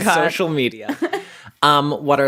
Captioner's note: laughs